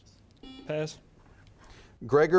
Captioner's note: buzzer beeps